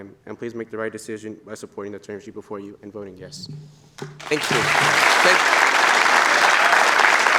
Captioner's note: applause